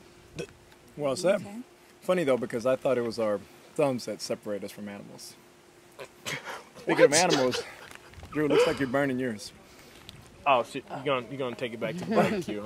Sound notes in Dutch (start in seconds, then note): 6.2 Drew snickers